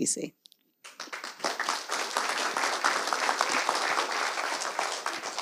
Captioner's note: audience applauds